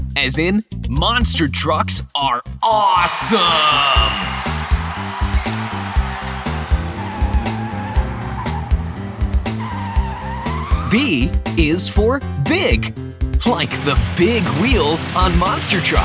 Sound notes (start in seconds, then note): 4.4 cheering; 7.2 screeching